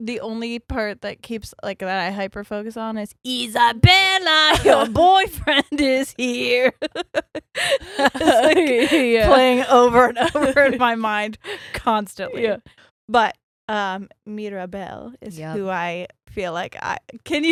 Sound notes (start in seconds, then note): 4.5 all laughing